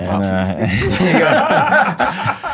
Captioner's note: laughing